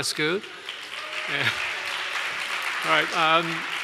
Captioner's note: applause